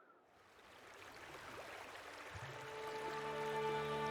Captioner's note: water trickling; gentle music